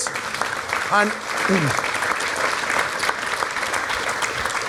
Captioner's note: applause